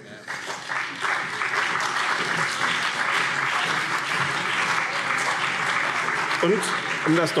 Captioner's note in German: Beifall BÜNDNIS 90/DIE GRÜNEN und CDU